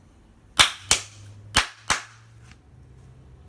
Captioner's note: clapping